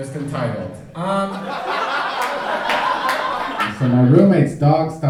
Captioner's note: audience laughing